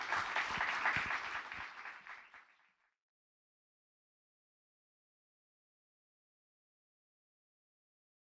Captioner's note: applause